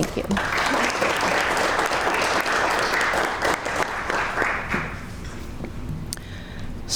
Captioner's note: crowd clapping